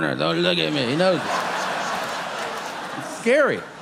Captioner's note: audience laughing